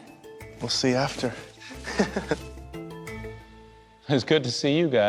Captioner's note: laughs